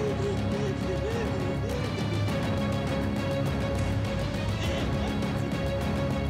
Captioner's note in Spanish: llanto de berta